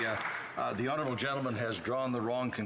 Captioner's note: some Applause